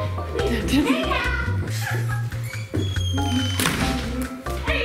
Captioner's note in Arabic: يضحك; موسيقى خفيفة